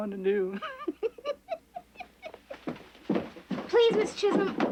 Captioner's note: Mary Tom laughing